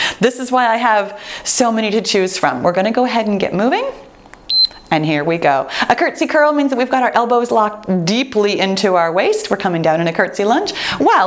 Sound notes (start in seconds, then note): 4.4 timer beeps